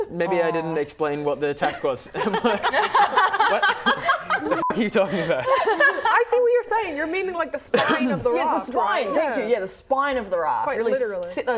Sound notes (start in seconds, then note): 2.1 laughing